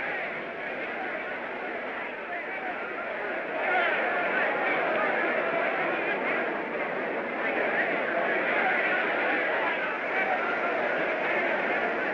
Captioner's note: crowd clamoring